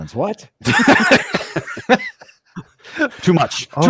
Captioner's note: laughter